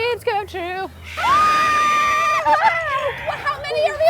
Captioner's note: screams